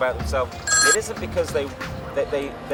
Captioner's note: phone ringing